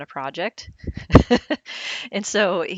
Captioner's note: laughs